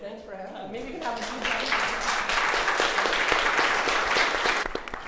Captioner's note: everyone applauds